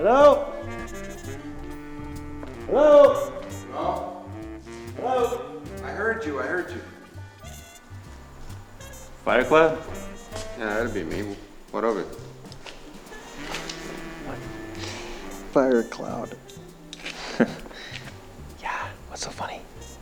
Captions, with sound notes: - Hello, hello? - Hello. - Hello? - I heard you, I heard you. - Fire Cloud? - Yeah, that'd be me what of it? - What? - Fire Cloud. (Jack chuckles) - Yeah what's so funny?